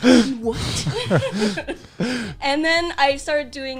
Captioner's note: laughing